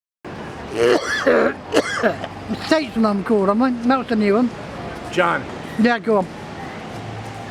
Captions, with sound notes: (coughing) - Satan, I'm cold, I'm not melting you up. - John. - Yeah, go.